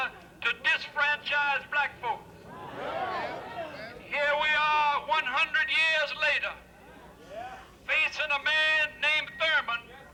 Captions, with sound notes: to disfranchise Black folk. (crowd jeers) Rev. Joseph Lowery> Here we are, one hundred years later, facing a man named Thurmond